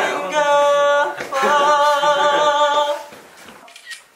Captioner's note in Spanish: Jajaja